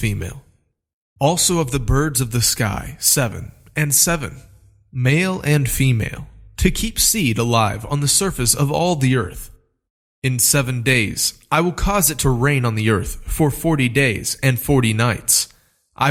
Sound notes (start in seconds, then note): none